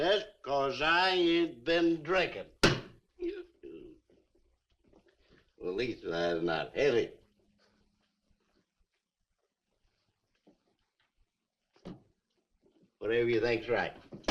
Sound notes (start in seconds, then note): 3.2 Harris belches